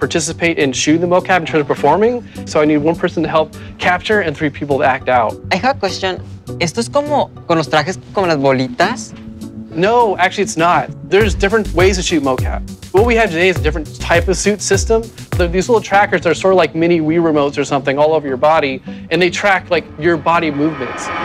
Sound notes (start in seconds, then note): 7.4 speaking Spanish